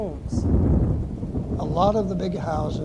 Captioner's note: thunder rumbling